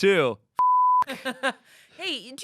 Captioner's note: beep